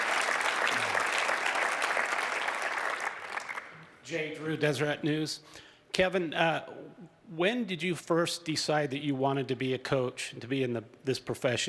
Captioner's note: cheers and applause